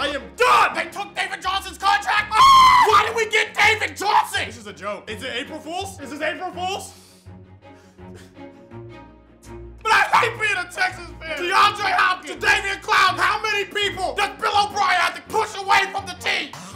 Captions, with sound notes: I am done! They took David Johnson's contract? (shrieks) Why did we get David Johnson? This is a joke. Is it April Fools'? Is this April Fools'? (sobbing softly) I hate being a Texans fan! DeAndre Hopkins! Jadaveon Clowney! How many people does Bill O'Brien have to push away from the team?